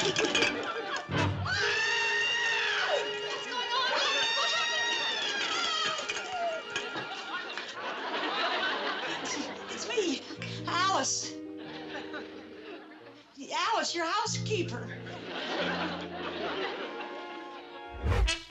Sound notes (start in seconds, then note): 1.5 Alice screams; 5.4 audience laughs; 14.8 audience laughs